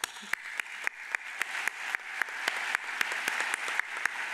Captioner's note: all applaud